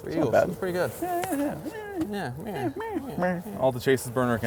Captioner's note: mocking